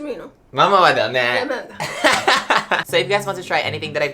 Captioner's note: both speaking Japanese